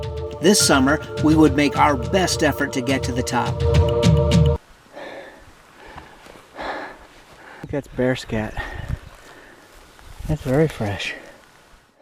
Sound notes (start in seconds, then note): 5.8 heavy breathing